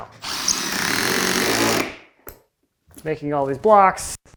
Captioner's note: drill whirring